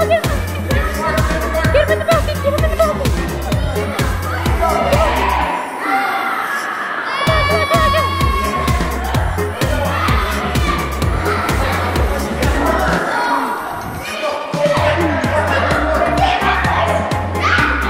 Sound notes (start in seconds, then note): 4.0 everyone shouting; 7.2 upbeat music; 11.4 everyone shouting